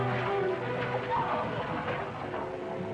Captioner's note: screaming